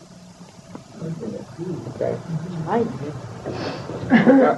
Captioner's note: background talking